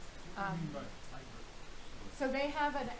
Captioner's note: man speaking